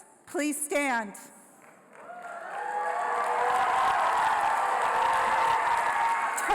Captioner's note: applause